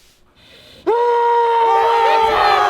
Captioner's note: loud yells